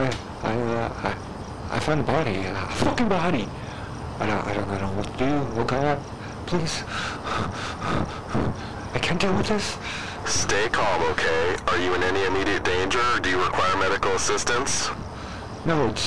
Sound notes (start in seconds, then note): 6.6 hyperventilating; 10.3 sigh